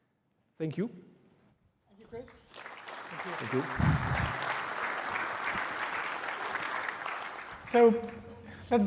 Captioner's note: applause